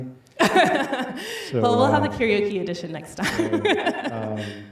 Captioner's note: laughs